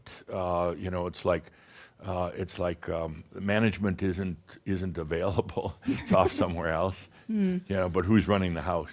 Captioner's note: chuckles